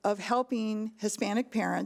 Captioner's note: none